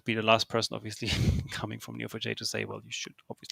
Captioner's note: chuckles